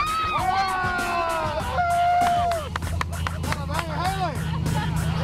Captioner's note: laughing and cheering